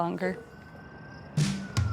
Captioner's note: thumping air sound